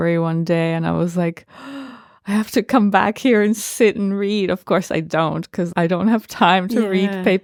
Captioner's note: gasp